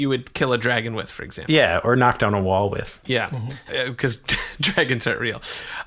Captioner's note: laughing